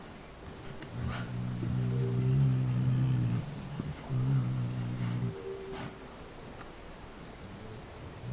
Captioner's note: odgłosy świerszczy, pomrukiwania niedźwiedzi